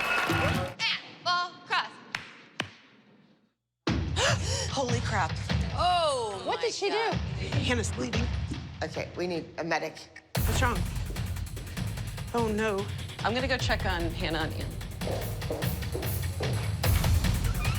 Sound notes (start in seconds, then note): 4.0 gasps